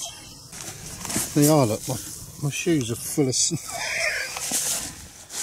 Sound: laughs

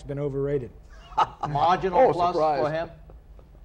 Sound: laughing

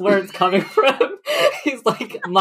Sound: laughing; laughs

